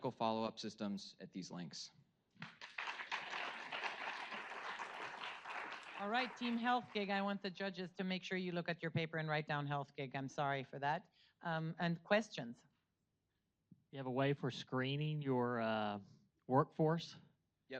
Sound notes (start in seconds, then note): 2.4 audience applauds